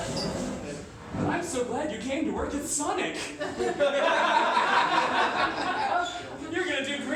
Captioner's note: laughter